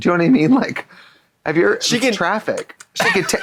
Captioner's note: victualing sounds; supping sounds